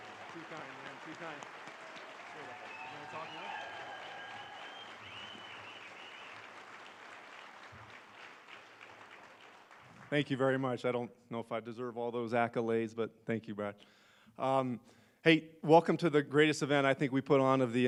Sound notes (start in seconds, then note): 0.0 applause